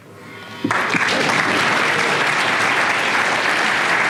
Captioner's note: applause